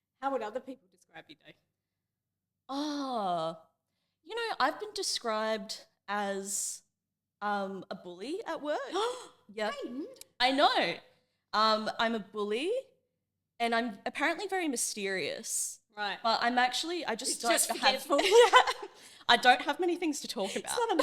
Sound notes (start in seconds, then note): 8.9 gasps